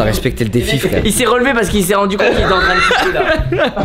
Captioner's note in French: rire